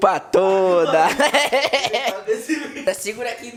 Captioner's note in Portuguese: risos